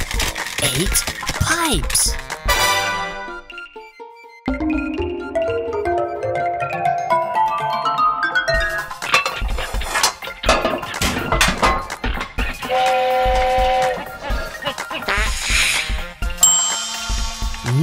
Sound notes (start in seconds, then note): 2.4 tada fanfare; 12.9 whistle; 15.1 fart